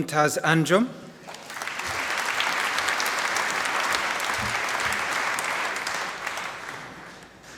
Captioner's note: applause